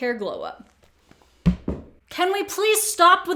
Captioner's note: phone dropping